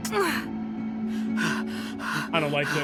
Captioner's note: Robyn grunts and pants